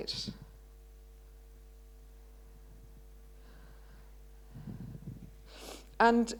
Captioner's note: pause